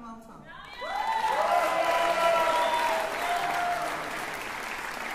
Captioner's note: cheering